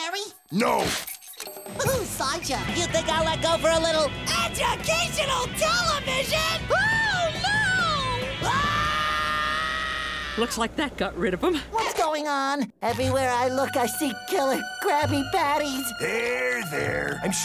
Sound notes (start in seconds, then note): 8.4 screaming